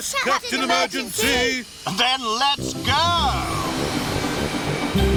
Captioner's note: none